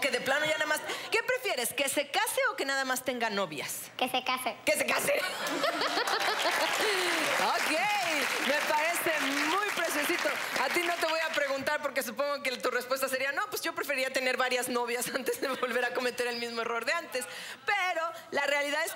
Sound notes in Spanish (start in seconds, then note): 8.0 Aplausos; 8.0 Risas